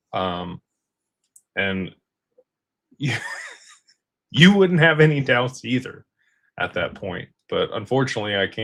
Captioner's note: laughter